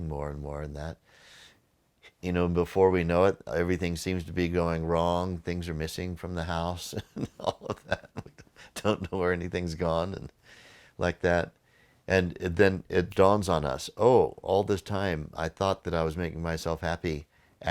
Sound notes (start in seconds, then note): 6.9 laughing